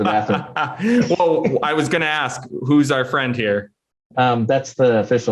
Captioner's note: laughs